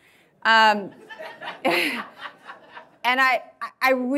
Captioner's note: audience laughing